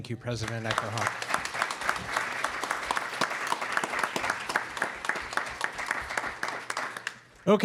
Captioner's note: applause